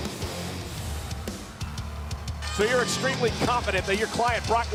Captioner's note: edgy upbeat music plays; crowd roars faintly